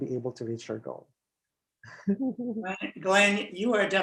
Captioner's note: laughs